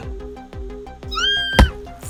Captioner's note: shrieks